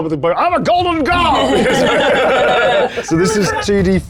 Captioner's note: group laughs